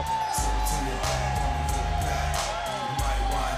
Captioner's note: crowd cheering